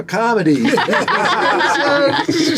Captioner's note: laughing